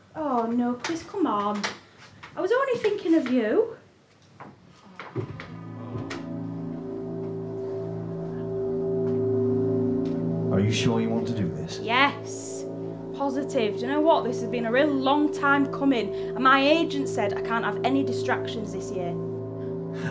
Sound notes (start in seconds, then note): 4.9 audience awws; 6.9 eerie hum